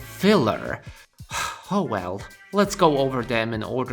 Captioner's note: sighs